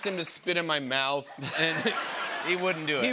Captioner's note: laughter